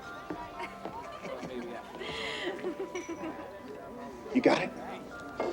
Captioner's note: both laughing